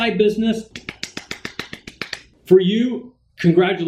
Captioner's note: loud clapping